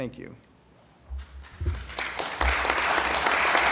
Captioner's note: applause